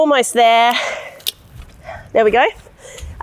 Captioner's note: locking pin clicks